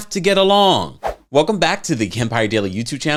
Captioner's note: whoosh